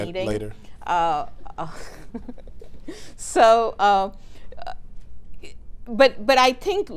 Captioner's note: laughs